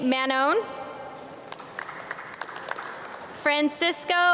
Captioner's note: audience clap